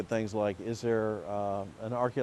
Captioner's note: water rushing